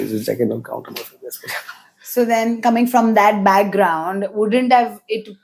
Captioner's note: laughs